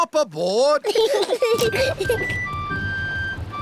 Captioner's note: peppa and george giggling